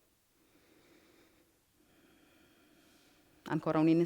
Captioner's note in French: Inspire - expire